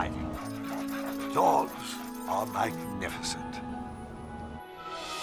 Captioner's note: dogs panting